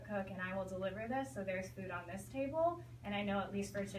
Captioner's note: none